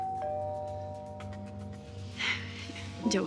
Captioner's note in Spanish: Timbre de la puerta